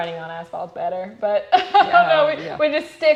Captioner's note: laughs